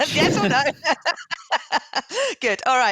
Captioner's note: laughing